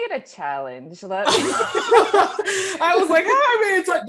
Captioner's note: laughing